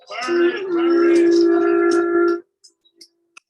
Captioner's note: horn honking